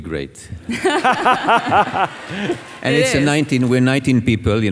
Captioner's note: audience laughing